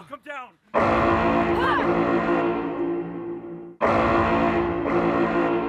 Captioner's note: alarm sounding